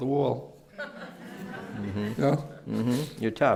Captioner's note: laughter